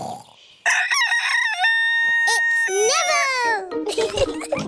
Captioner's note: neville crows; both giggling